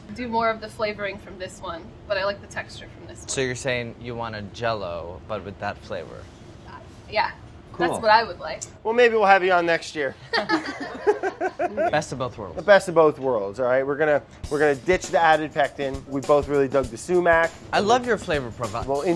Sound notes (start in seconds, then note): 10.3 laughs